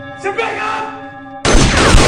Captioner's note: gun firing; light haunting music